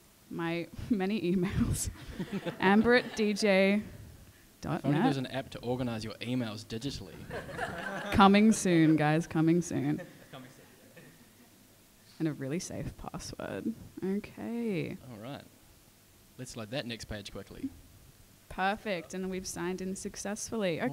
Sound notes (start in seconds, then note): 7.2 audience laughs